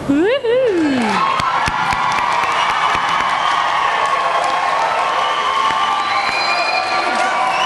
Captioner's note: applause